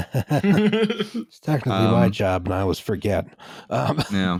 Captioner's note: laughter